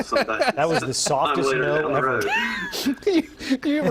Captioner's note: laughter